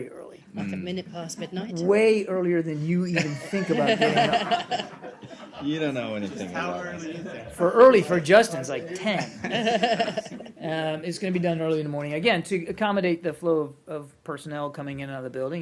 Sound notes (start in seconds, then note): 3.1 laughter; 9.1 laughter